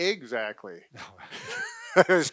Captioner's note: laughing